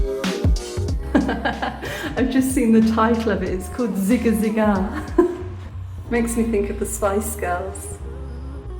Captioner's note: laughing